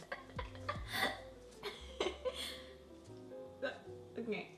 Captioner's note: laughs